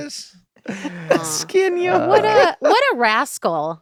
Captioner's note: Glenn laughing